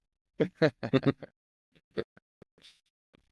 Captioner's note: laughing